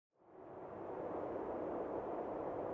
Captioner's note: wind howling